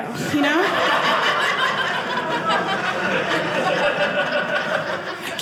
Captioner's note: audience laughing